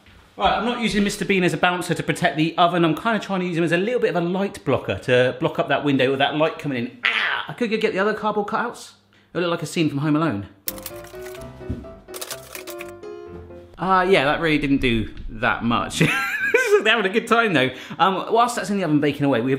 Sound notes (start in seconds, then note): 10.6 bouncy music; 16.0 laughs